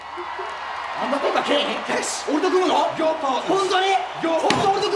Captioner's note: crowd cheering; overlapping yelling; person speaking in foreign language